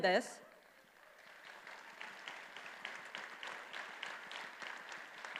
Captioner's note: attendees applauding